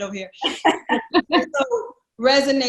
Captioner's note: laugh